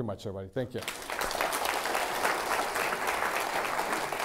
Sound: applause

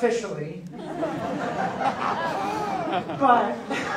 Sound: audience laughs

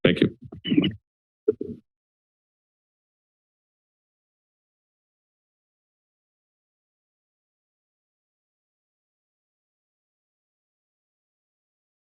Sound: silence

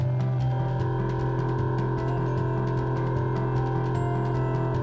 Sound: machining sound

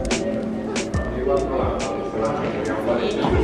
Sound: chatter

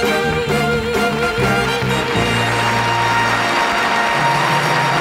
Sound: audience applauding

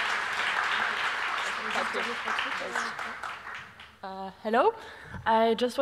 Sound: applause

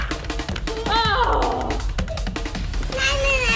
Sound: bouncing; mom groans

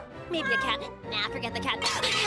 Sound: clang

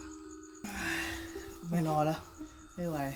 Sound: sigh

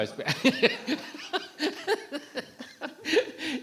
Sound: giggling

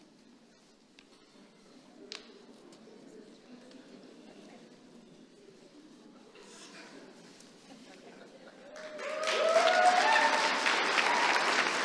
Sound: applause

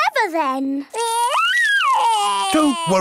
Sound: crying

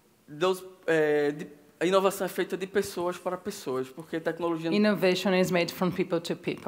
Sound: speaking Portuguese

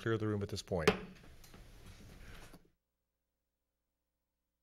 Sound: hits gavel

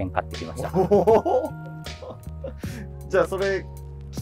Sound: laughing

